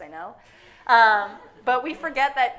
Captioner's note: audience laughing